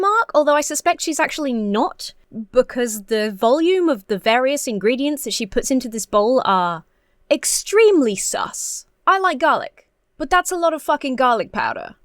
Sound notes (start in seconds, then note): none